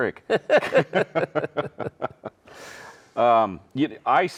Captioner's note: both laughing